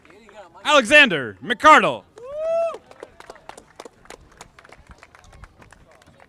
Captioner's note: audience applauding